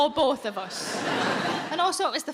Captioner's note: audience laughing